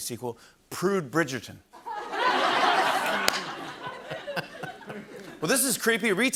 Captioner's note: laughter